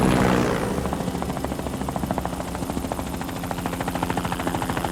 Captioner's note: aircraft whirring